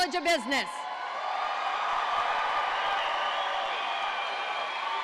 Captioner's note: audience cheering